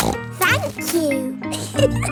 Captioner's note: snorts; giggles